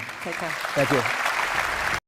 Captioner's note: applause